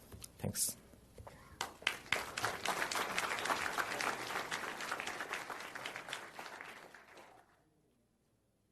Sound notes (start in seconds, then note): 1.6 audience applauding